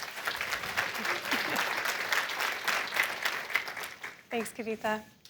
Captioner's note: applause